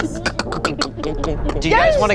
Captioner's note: imitates creaking and thudding